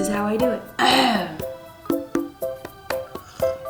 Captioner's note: clears throat